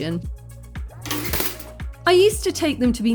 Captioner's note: clatter